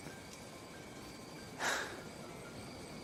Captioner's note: sighs